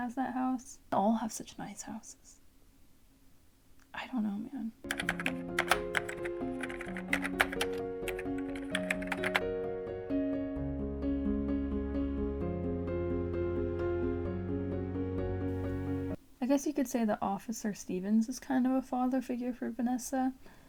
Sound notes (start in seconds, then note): 4.8 typing sounds; 9.3 instrumental music